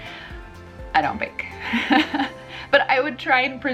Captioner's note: laughs